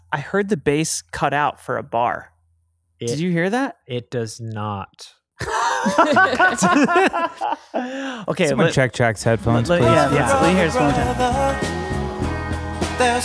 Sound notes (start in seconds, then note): 5.4 laughing